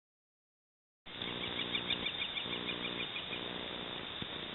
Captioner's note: bird tweeting